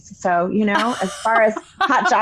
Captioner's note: laughing